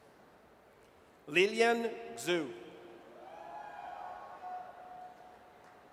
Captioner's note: audience cheers